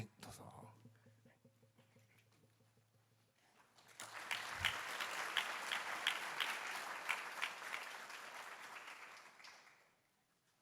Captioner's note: applause